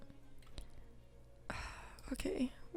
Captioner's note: sighs